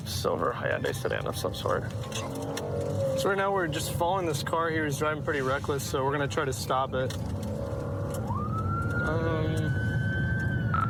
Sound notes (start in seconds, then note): 7.4 siren blaring